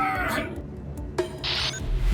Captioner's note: grunting